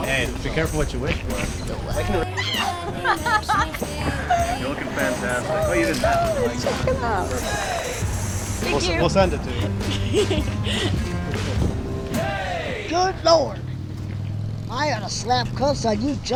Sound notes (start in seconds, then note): 2.2 Allie screams; 3.0 Allie laughs